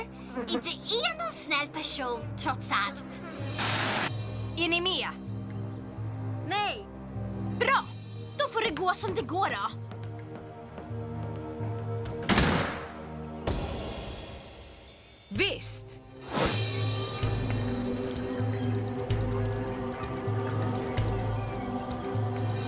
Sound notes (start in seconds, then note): 12.2 door slams